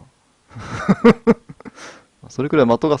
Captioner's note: laughter